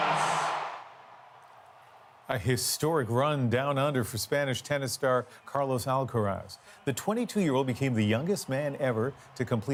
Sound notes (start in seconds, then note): 0.0 cheers and Applause